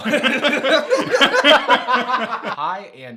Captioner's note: laughing